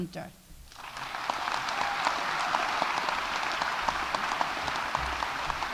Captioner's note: audience applauding